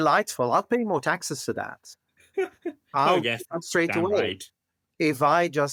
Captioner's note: laugh